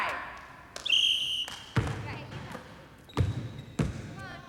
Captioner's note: whistle blows